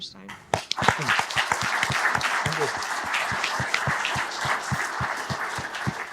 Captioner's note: audience clapping